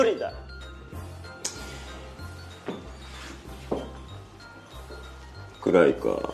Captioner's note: inhales sharply; clicks tongue, takes footsteps